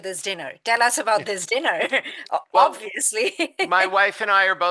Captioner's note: laughs